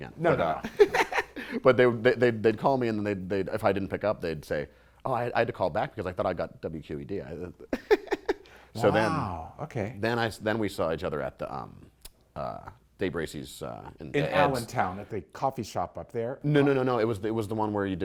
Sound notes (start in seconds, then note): 0.6 laughter; 7.7 light laughter